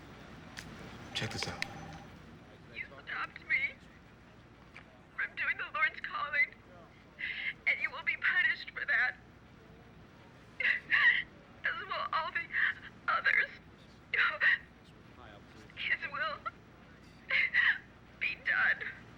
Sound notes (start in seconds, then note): 10.6 sobbing